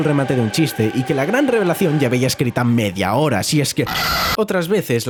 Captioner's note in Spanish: gritando